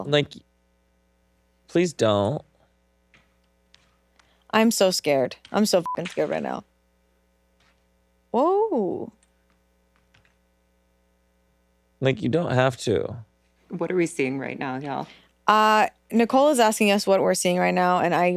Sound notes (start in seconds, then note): 5.8 beep